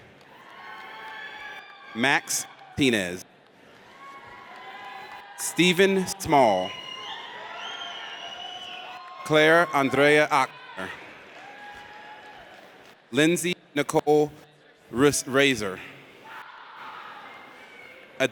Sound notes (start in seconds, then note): 0.2 audience cheers; 7.0 audience cheers; 11.0 audience cheers; 16.3 audience cheers